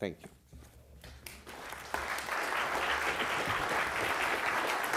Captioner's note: applause